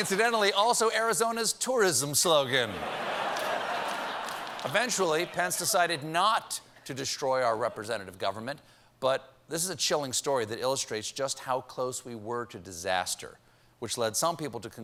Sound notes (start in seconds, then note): 0.1 applause; 0.1 laughter; 5.8 laughter